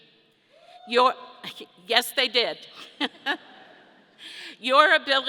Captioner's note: laughs